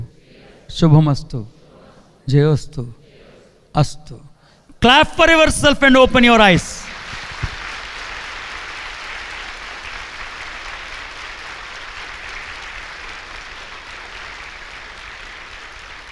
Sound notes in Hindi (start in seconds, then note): 7.4 तालियाँ